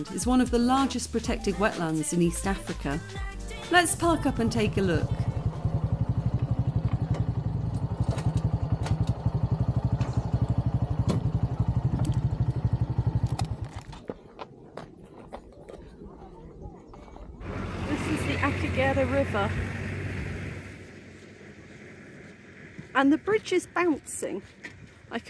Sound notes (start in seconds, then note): 17.4 truck noise